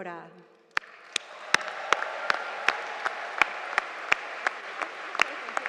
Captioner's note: audience applauding